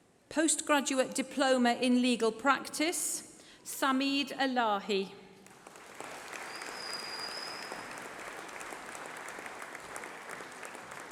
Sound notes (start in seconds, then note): 5.4 applause